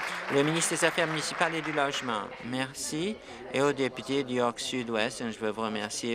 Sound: applause

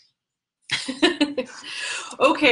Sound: chuckling

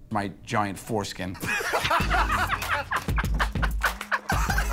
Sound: laughter

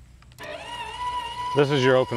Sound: gates buzzing

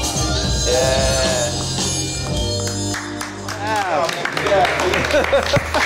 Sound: applause

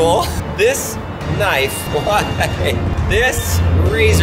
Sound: laughs

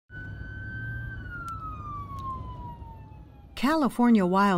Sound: sirens wailing

